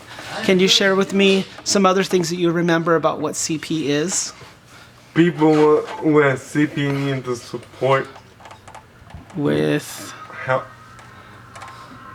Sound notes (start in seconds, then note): none